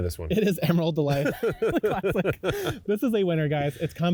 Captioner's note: laughing